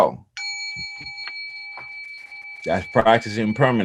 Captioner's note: bell chimes